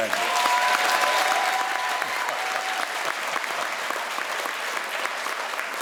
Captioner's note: crowd cheers and applauds